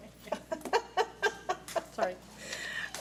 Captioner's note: laughs